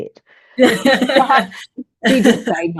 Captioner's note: everyone laughs